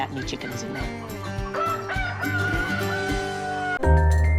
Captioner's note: crowing